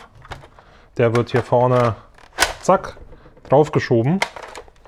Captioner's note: bam